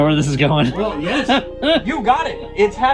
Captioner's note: laughing